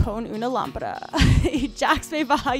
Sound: laughs

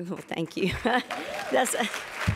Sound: applause

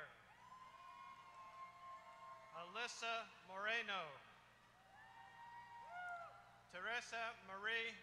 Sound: applause

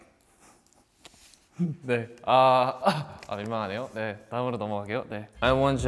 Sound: chuckles; speaks Korean

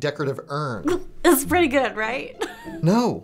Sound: laughs

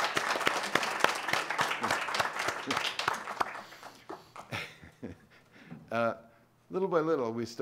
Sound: applause

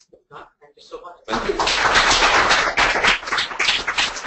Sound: applause

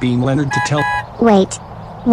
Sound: rocky's horn

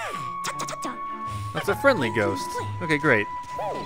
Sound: voiceover

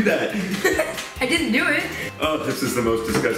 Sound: laughs

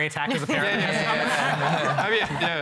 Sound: laughter

